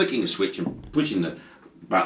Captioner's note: hand thudding